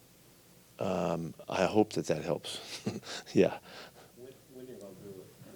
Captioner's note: laughs